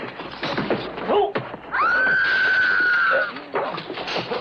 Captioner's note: screaming